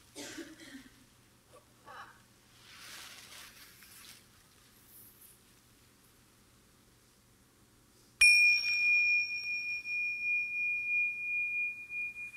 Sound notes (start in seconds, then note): 0.2 audience member coughing; 8.2 chimes ringing